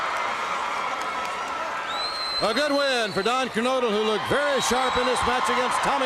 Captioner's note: crowd cheering